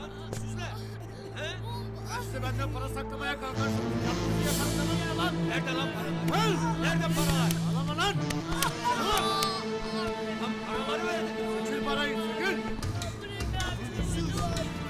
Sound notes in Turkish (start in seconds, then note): 6.4 Kavga sesleri; 10.1 Kavga ve ağlama sesleri